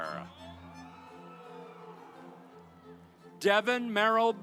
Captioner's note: audience applauds